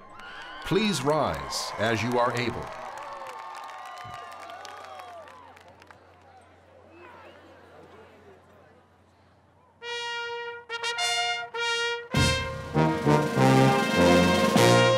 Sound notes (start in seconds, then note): 2.8 cheers and applause